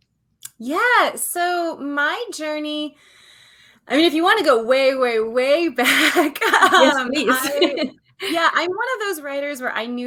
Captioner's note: laughs